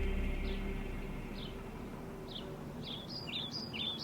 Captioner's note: birds chirping